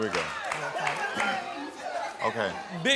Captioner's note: audience applauding